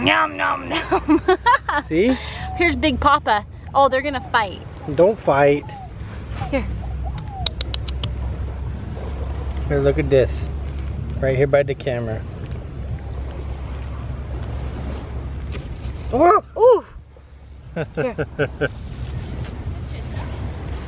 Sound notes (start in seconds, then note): 7.1 clicks tongue